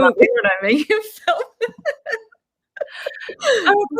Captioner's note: laughing